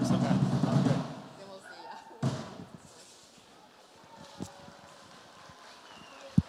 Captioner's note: laughs; instrumental music ends; audience applauds